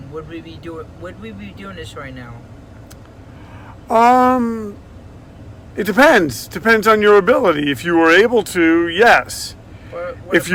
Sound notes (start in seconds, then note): none